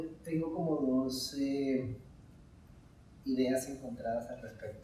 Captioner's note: speaking in Spanish